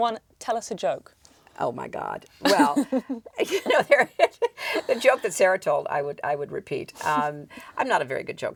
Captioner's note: laughs